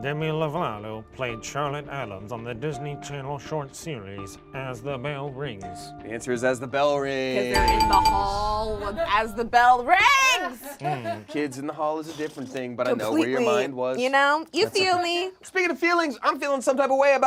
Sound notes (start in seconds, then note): 7.6 buzzer rings